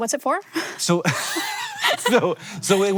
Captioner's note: both laughing